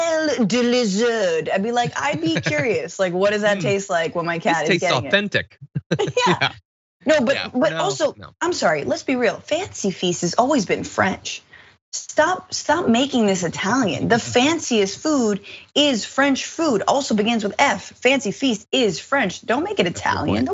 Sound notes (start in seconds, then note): 4.6 laugh